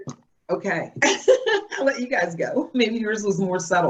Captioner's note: laughs